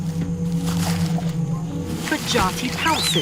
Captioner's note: leaves rustling